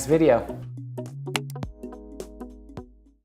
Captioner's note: mouse clicking sound